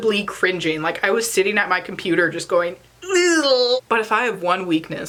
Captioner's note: cringe sound